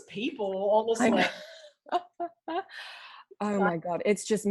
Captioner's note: laughs